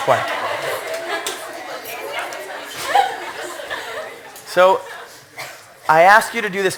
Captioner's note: laughter